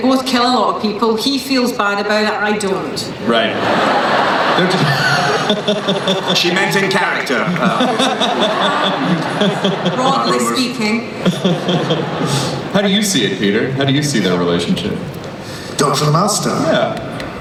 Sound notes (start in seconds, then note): 3.6 voiceover; 4.3 laughing; 13.0 voiceover